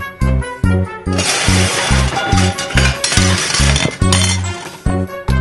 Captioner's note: dishes breaking sound; background music